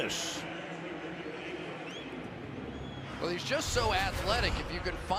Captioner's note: pa announcement